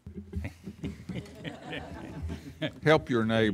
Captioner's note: laughing